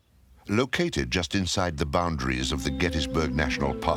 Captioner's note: birds chirping